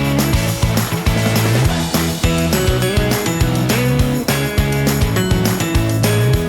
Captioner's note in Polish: Aplauz